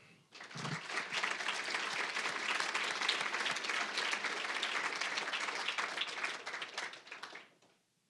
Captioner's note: applause